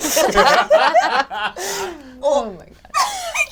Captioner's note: all laugh; laughing